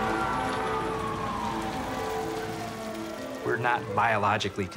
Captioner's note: siren wailing, horn honking